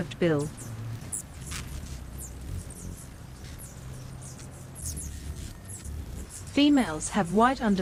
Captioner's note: birds chirping